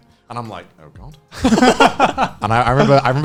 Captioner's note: laughing